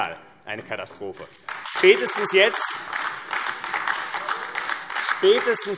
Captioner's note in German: Beifall AfD